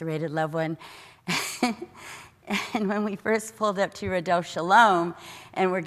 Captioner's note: laugh